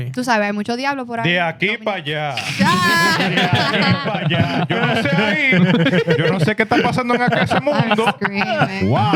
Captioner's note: speaking Spanish; laughter; speaking Spanish